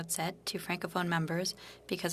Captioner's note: speaking French